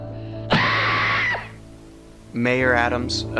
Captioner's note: Tess screaming; ax thuds; Tess screaming; ax thuds